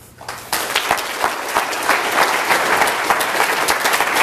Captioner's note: applause